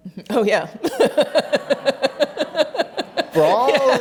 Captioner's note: laughs